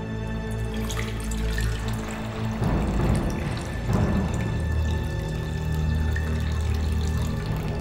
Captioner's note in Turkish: Şerbet doldurma sesi